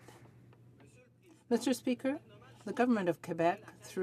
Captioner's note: some Applause